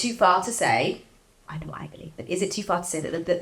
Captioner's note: whispers